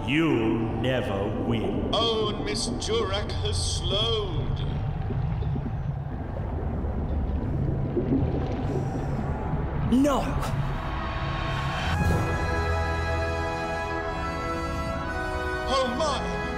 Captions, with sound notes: You'll never win. Oh and Miss Durack has slowed. (distant crowd sounds) No!!! (victory trumpets) Oh my!